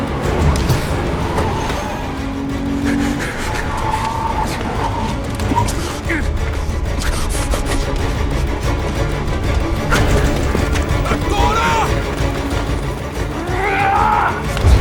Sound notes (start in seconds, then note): 3.7 tires screeching; 5.3 grunting; 13.3 screams